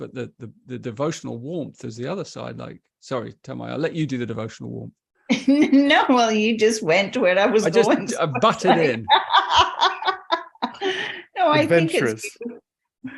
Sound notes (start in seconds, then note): 7.8 laughs; 8.0 laughter